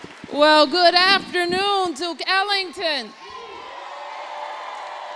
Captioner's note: applause